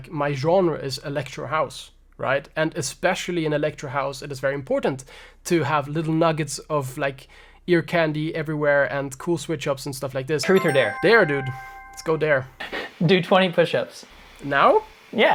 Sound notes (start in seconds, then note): 10.4 bells chiming